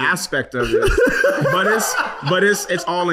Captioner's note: laughing